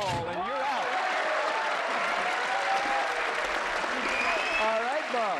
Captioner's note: applause